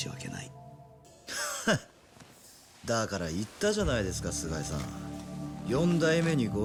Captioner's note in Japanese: 笑い